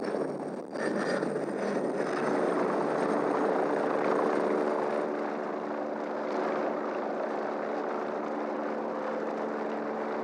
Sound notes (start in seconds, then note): 3.0 helicopter sound